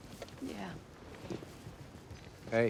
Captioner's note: footstep